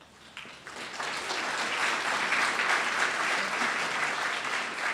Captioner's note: applause